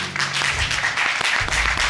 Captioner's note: all applauding